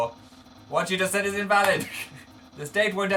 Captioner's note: chuckles